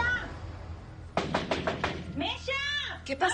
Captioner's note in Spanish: Toques en la puerta